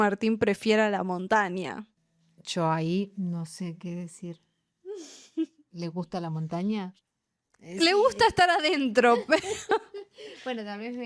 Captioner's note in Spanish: risas